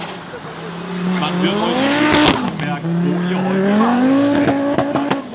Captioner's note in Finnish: moottorin ääniä